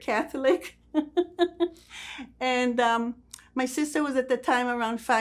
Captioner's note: laughing